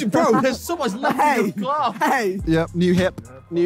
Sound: laughing

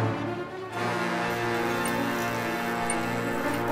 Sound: electrical hum

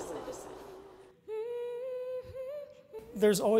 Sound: woman humming

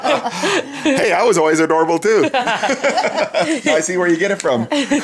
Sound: laughs

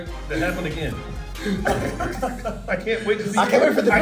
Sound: laugh

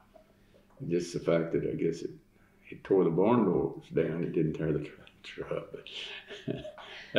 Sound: laughs

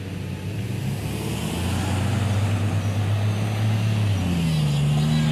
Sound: cars passing

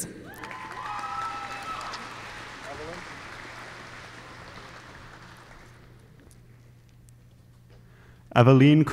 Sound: applause

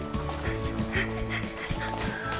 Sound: both panting; whimsical music

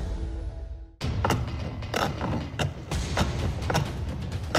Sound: sawing

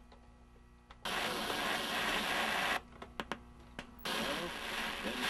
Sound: TV static; TV static

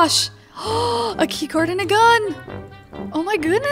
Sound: gasps

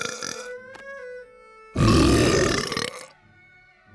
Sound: belching; belching

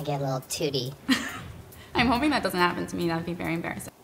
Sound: chuckles

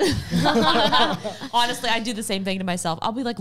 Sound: laughing together

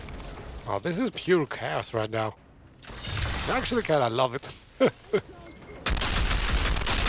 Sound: laughs

